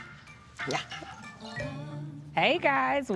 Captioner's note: fake evil laugh